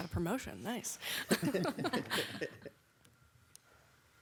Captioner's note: people laughing